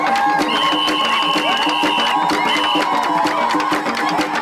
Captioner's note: crowd cheering; whistle blowing